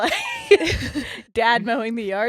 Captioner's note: laughing